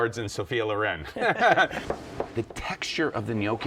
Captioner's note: laughter